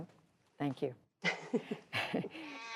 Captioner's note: laughter